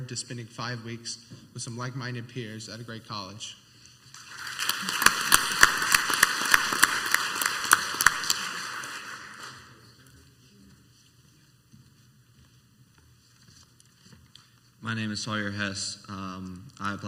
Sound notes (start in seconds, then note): 4.2 clapping; 12.2 footsteps